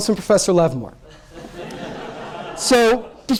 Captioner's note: laughter